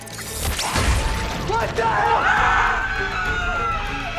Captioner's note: screaming